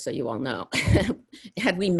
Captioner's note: laughs